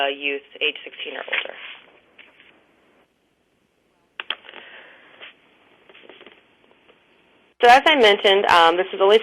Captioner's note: pause